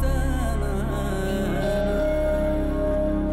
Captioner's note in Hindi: none